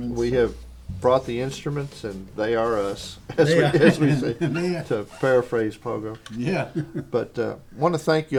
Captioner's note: laugther